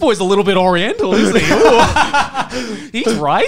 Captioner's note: laughing